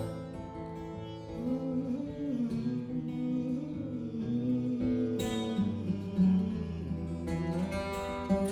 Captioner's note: humming